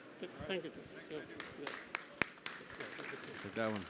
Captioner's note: applause